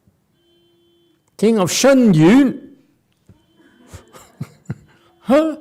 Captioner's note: laughs